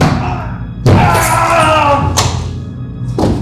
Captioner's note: shouts